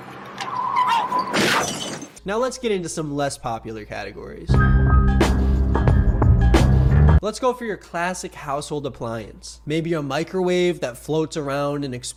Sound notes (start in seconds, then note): 0.1 tires screeching; 0.5 she exclaims; 1.1 glass shatters; 1.4 car thuds; 4.5 haunting jazz music